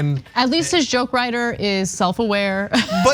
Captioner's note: laugh